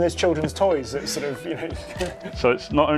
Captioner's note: chuckles